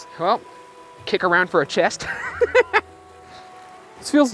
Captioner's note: laughs